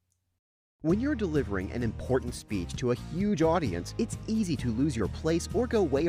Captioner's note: voiceover